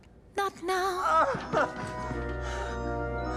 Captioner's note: groans